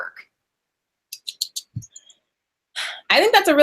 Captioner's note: clicks tongue